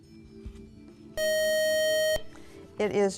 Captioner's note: beeping